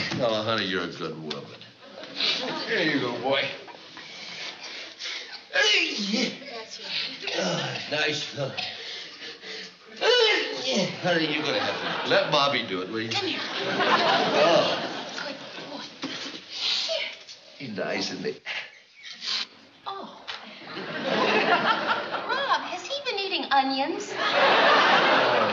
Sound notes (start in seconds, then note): 7.0 sneezes; 10.0 sneezes